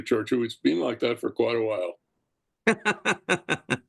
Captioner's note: laugh